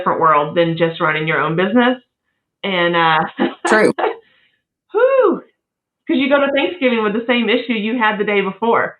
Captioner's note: laugh